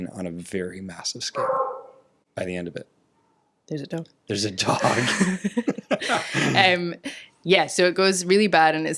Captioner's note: bark